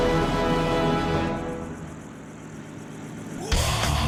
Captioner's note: helicopter blades whirring; heavy metal music